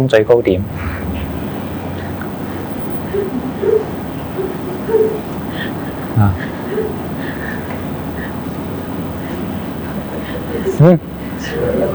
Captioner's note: Zen-style shouting